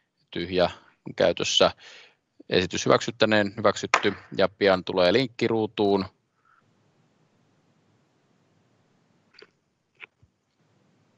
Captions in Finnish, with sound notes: TYHJÄ on käytössä. Esitys hyväksyttäneen? Hyväksytty. [nuijan kopautus]